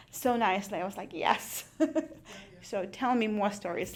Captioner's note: laughs